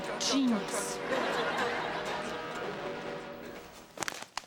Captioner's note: audience laughs